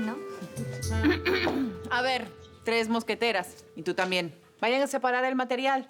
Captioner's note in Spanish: Carraspea